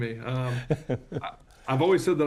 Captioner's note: laughs